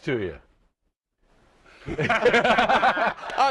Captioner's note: laughter